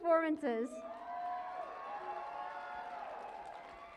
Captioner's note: cheering and applause